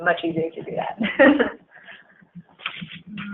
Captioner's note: laughing